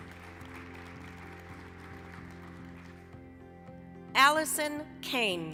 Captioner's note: applause